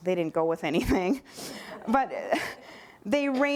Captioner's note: laughter